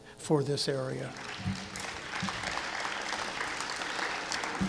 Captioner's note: clapping